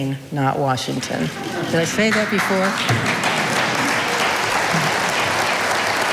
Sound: audience applauding

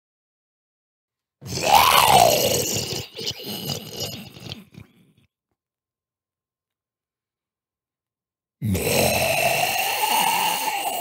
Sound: sound of monster

